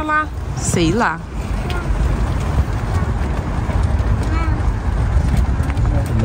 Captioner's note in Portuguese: balbucia